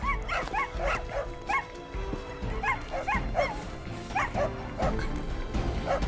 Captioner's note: dogs barking